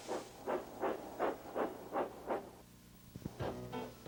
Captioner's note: owl hooting